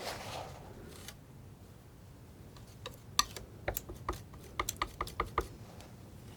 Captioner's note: tapping